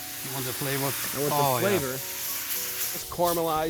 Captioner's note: sizzling